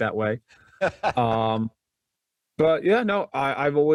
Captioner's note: laughs